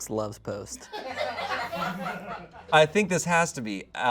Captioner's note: audience laughing